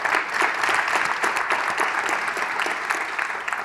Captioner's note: applause